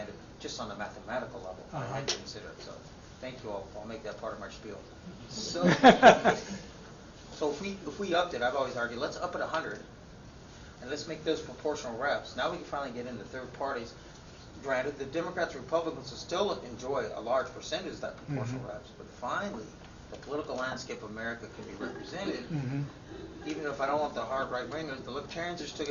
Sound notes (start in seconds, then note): 5.5 laughter